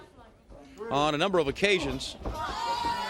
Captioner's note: crowd cheering